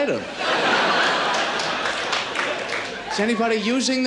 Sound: laughter and applause

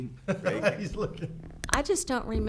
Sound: laughing

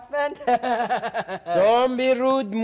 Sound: Sharik loudly chuckling

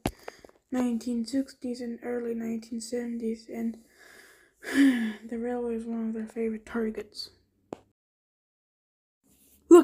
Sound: sighs

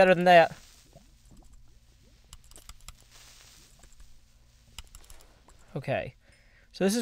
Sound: creeper hisses

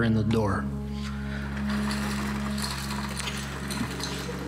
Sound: 'Ice Maker' Sound Effect

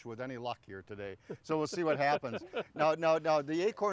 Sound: laughing

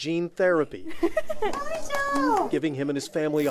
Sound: giggles

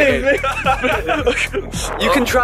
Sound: audience mumbling

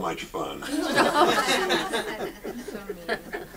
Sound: audience laughs

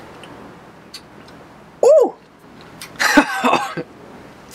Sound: laughs

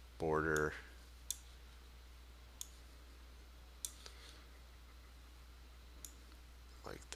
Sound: sound of mouse clicking

